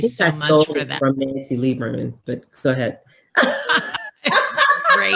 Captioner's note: laughs